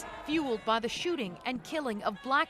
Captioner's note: chanting